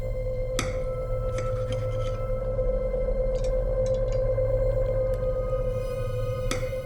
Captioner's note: tense music; cutlery scraping